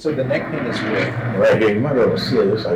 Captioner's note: chair wheels scraping